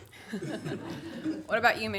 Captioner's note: everyone laughs